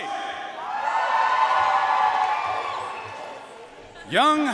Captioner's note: audience cheering and applauding